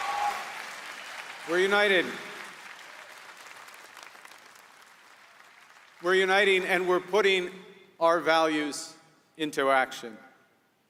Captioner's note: applause